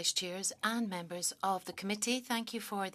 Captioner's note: speaking French